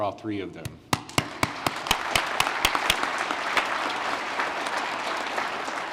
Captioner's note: applause